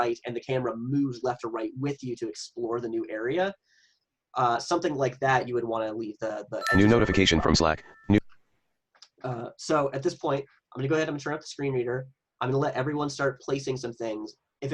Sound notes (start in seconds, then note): 6.6 chimes; 7.6 computer Voice